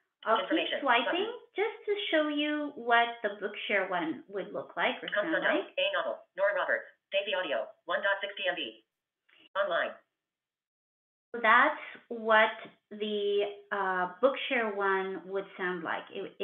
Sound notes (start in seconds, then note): 5.4 VoiceOver voice